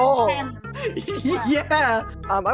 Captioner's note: giggling